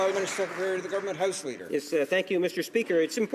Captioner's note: some Applause